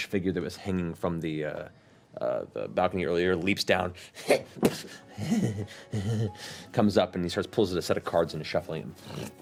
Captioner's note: creepy chuckling